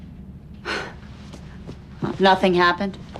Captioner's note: scoffs